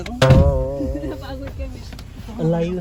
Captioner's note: laughing